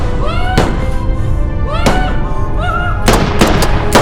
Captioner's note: yelling; guns firing